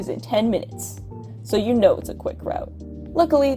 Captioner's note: sarcasm